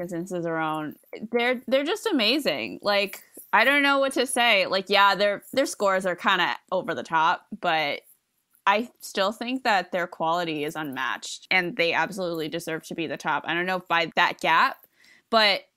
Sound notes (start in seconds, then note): none